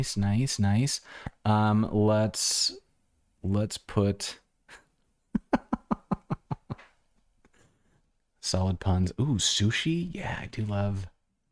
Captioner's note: laughter